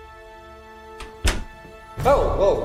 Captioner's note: studio door clicking shut